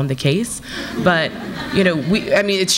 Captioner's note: audience laughs